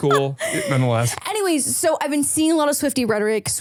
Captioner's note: laughs